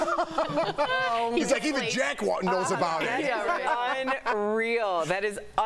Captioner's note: laughter